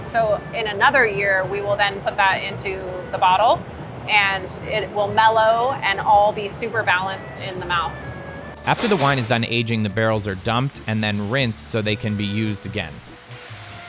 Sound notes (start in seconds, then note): 8.6 barrels clanking; 13.6 water splashing